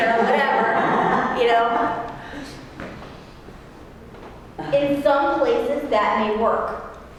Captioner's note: laugh